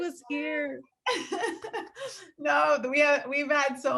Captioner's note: laughing